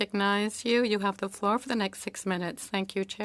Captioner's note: speaking French